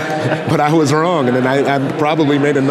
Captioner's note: laughing